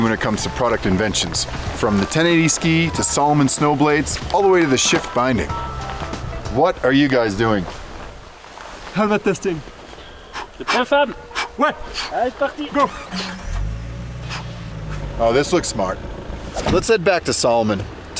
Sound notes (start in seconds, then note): 12.8 car engine revving